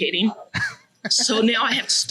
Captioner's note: laughs